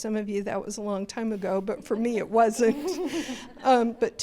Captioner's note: panel & crowd laughter